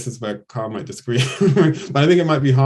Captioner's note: laughs